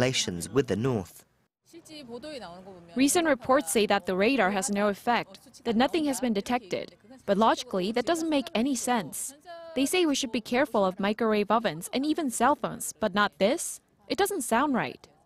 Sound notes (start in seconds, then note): 2.0 Korean